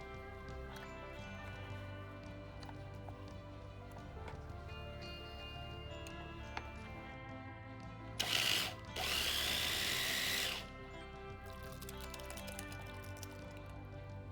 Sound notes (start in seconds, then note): 8.2 blender whirring